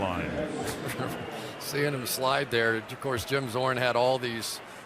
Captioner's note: chuckles